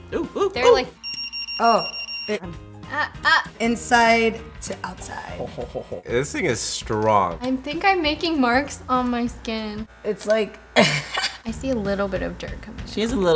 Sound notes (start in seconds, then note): 0.0 electronic beeping; 1.0 fast beeping; 5.2 laughing